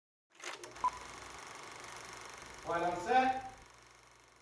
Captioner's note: film reeling